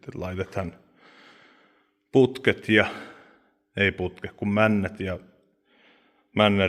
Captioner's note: sigh